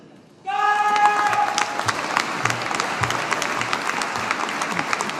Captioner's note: audience applauding